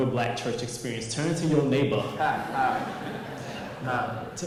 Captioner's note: audience laughs